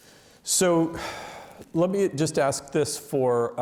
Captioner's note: sighs